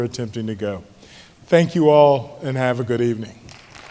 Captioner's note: applause